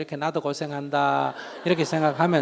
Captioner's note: audience Laughter